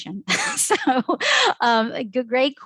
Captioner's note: chuckles